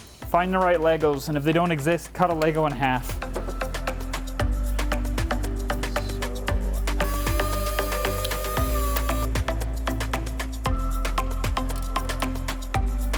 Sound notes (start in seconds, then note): 3.4 gentle upbeat music; 7.0 tool whirring; 9.1 gentle upbeat music